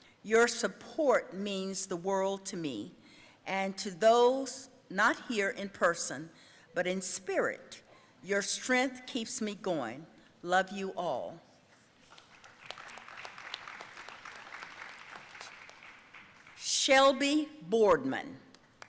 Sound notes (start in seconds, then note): 12.1 audience applauding